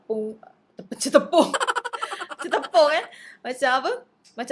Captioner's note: laugh